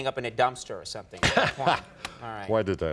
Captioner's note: laughter